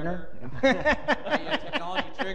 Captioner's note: laughter